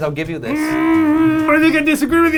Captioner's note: muffled yelling